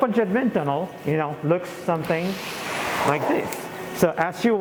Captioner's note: air swooshes as door opens